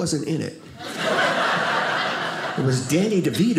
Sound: audience laughing

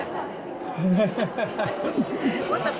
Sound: laughs

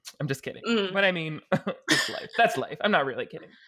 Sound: laughing

